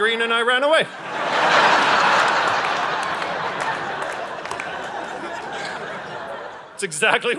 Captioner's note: audience laughing